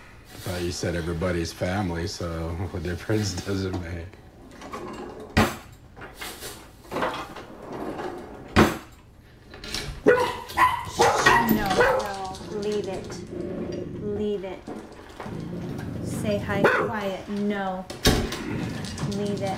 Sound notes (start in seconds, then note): 7.1 opening and closing drawers; 10.0 dogs barking; 16.6 dog barks